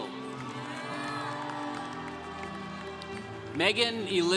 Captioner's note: congregation cheering